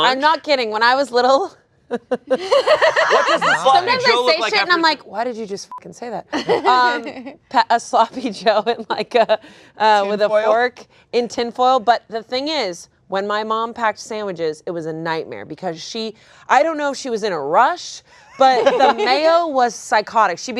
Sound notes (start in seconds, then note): 2.0 laughs; 5.7 beep